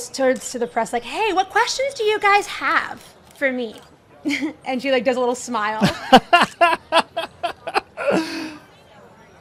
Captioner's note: chuckles; laughs